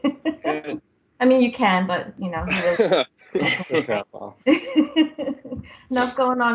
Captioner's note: laughter; laughter